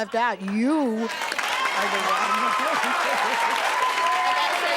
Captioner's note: audience cheering